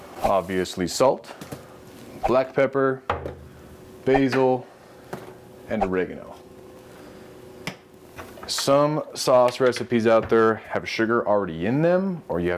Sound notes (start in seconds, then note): none